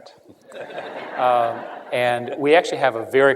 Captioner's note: laughter